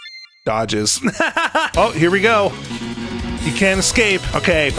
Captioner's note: laughs